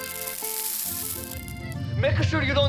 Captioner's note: rumbling sound